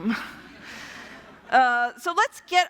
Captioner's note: laughter